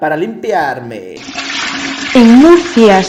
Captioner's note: toilet flush